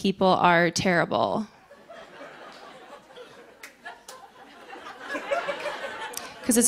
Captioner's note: laughter